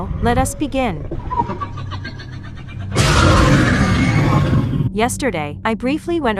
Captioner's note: demoscreams